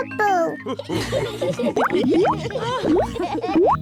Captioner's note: laughs and snorts; all laugh; oinks